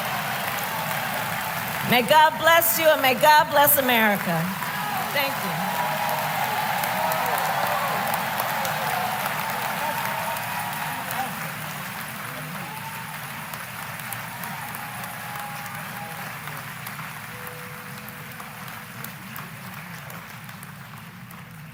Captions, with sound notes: (Applause.) May God bless you, and may God bless America. Thank you. (Applause.)